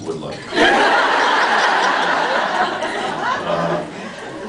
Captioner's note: laughs